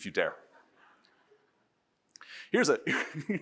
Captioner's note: audience laughs